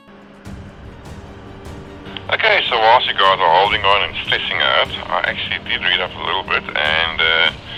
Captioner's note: talking over 2 way radio